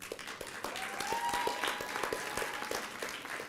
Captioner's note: applause